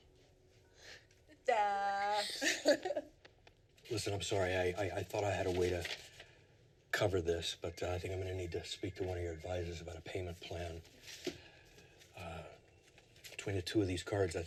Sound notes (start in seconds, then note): 2.1 laughing